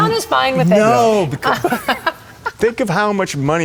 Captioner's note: Carrie laughs